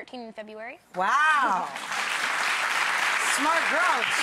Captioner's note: crowd applauds